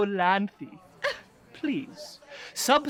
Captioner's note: scoff